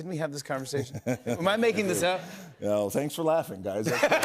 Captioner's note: laughter